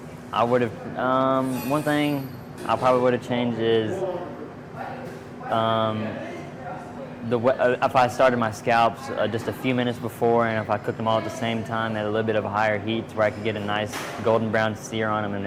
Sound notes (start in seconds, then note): none